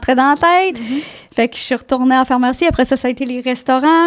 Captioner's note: in french